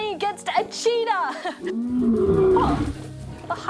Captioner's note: laughs; growls